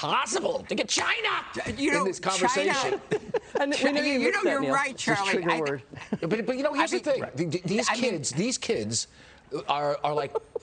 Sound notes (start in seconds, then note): 5.9 laughter